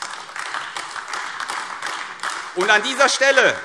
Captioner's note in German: Beifall AfD